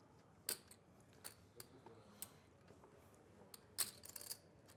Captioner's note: poker chips clicking